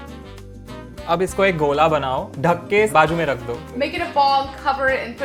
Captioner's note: speaking in Hindi